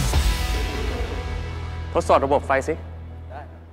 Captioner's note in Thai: none